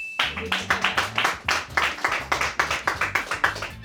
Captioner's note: bell chimes; crew applauds